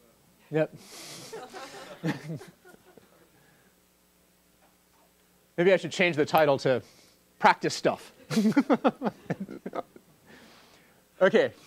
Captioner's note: laugh